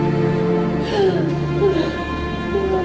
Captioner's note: sobbing continues